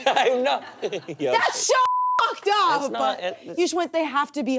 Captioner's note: beep